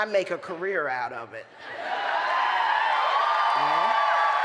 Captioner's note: applause